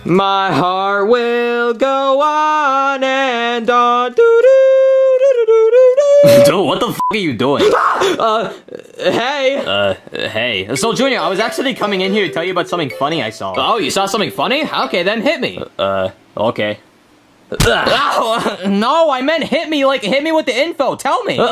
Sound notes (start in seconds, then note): 6.2 beep; 7.6 Junior screaming; 17.5 Luigi grunting